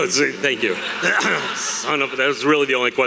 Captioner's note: audience laughter; clears throat